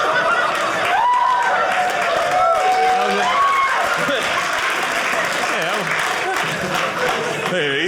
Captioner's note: audience laughing; audience cheering